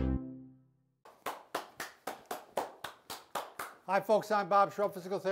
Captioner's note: clapping